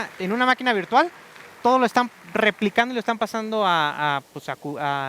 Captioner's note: aplauso